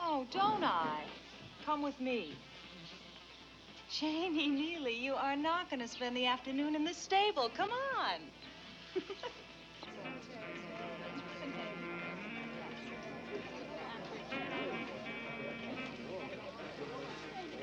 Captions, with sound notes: - Oh, don't I? Come with me. Janie Neely, you are not gonna spend the afternoon in the stable, come on! (laughs) (jazzy music) (people chattering)